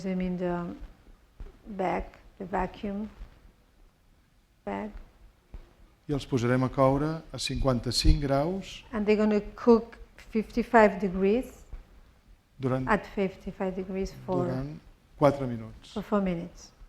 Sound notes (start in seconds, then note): 7.2 speaking spanish